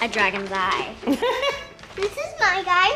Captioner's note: laughs